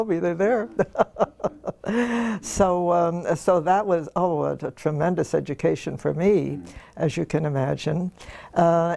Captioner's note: laugh